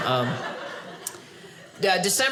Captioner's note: audience laughing